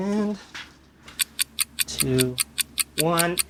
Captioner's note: clock Ticks